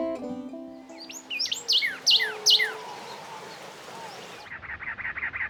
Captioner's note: birds chirping